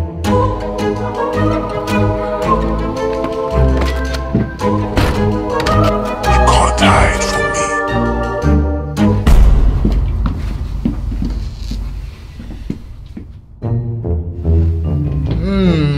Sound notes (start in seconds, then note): 0.0 suspenseful orchestral music; 6.3 door clunks; 11.1 dramatic music; 13.6 jaunty orchestral music